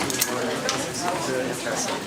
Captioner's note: background chatter